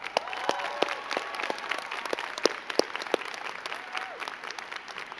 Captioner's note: crowd cheering and clapping